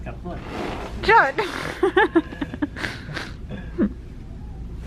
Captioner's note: laughter